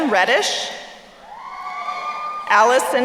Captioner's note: crowd cheering